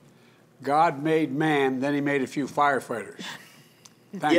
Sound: laughter

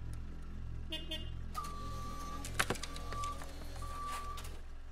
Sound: vehicle beeping

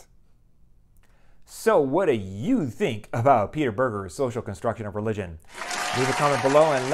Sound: applause

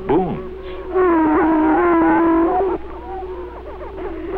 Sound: prairie chicken booming

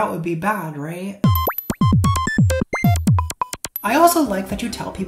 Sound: beeps and boops

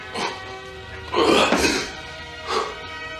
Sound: grunts heavily

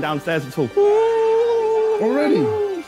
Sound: ghost voice

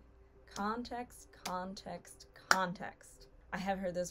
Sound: claps for emphasis

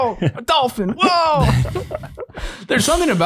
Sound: laugh

